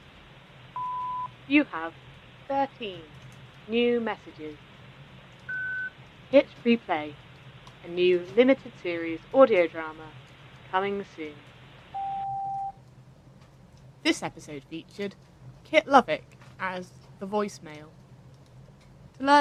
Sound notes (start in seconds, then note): 0.8 beep; 5.5 high pitched beep; 11.9 lower beep; 12.9 rain continues